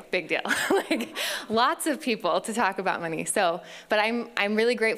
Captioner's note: laughs